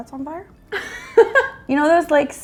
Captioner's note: laughing